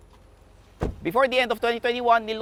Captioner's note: door thuds